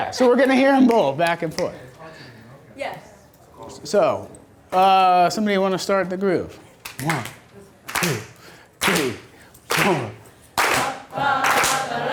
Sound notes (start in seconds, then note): 3.0 voiceover; 10.5 voiceover; 11.4 clapping